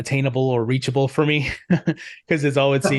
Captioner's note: laughs